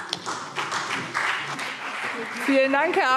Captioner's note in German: Beifall CDU und BÜNDNIS 90/DIE GRÜNEN